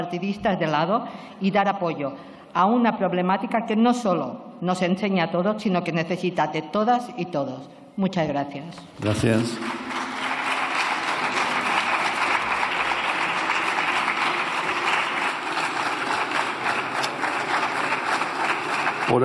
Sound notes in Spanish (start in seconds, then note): 9.3 Aplausos